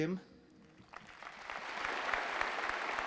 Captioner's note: applause